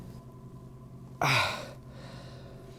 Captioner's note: moans